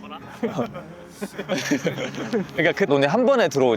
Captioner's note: murmurs, laughter